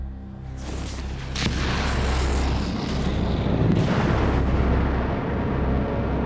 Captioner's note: rockets firing